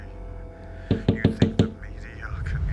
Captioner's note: knocking